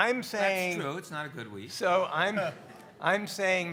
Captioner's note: speaker laughs